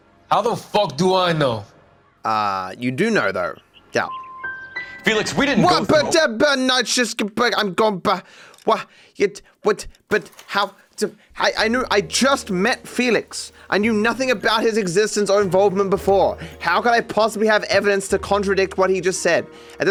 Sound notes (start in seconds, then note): 6.1 speaks gibberish